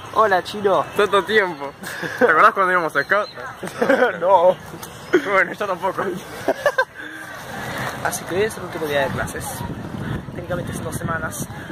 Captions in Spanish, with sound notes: Hola, Chino. Tanto tiempo. ¿Te acordás cuando ibamos a Scouts? (Risa confundida) No. Bueno, yo tampoco. (Carcajada) Así que, hoy es el último día de clases. Técnicamente es en dos semanas...